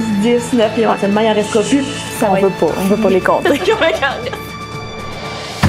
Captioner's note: laughs